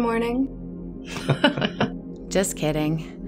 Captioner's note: chuckling